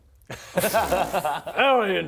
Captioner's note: incredulous noises